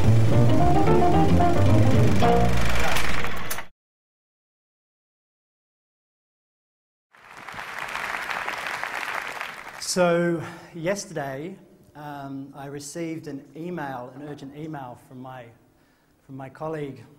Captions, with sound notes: [Intro Music] [Applause] So yesterday, I received an email, an urgent email from my colleague Cameron